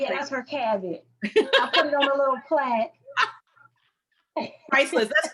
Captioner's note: laughs